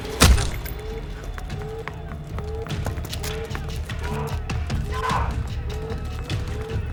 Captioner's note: soldiers shouting; alarm blaring